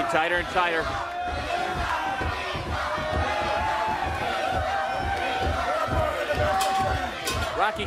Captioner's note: crowd cheering